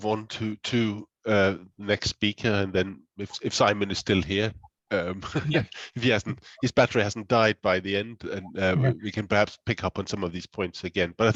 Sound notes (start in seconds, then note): 5.5 laughs